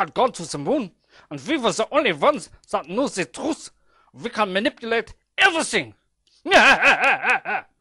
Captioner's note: laughs